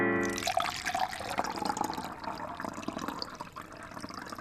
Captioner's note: milk splashes